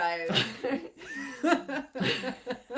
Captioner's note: laughs